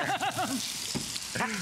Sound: laughter

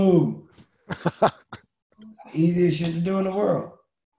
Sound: Lewis laughing

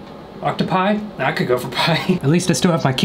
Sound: laughing

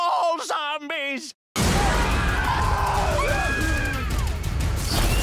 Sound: screaming

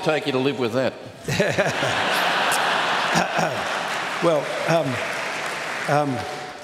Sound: laughter

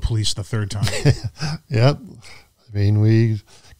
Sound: chuckling

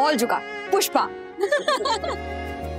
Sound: laughing

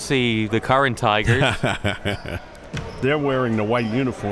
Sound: laughing

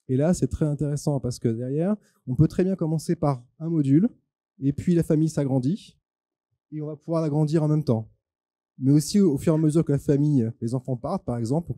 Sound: translating into french

